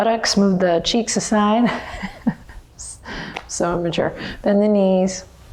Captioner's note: laughs